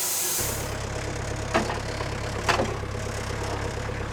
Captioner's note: engine purring